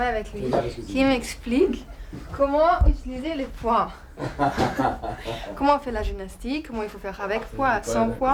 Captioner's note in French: rires